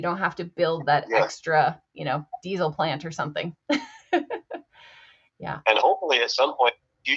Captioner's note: chuckles